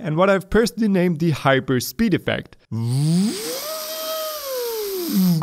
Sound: humming

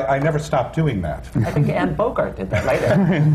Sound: laughter

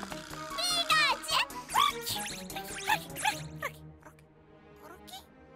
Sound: Grookey gibbering

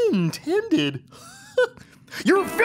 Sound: chuckling

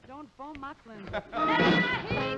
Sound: laughter

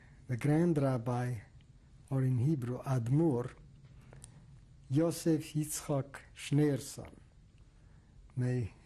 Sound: hebrew

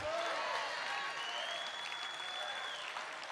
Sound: congregation cheering

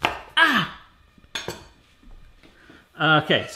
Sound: gasps

